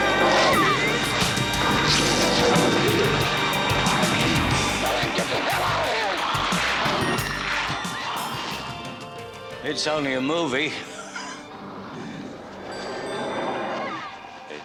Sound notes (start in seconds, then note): 4.3 screaming; 5.4 gunshots; 13.6 screaming